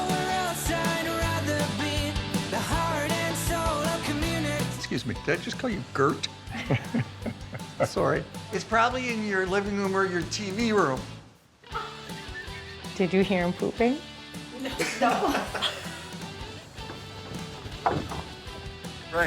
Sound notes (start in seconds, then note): 14.6 chuckles; 16.8 upbeat music